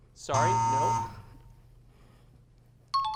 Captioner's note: buzzer sound